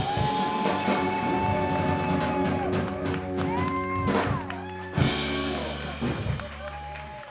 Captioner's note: cheers and applause